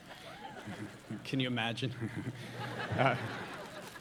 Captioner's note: chuckles; audience laughing